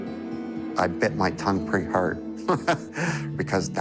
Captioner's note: light guitar music; chuckles